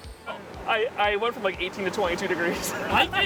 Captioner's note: pat